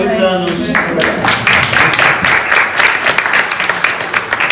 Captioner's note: applause